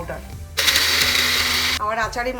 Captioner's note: blender whirring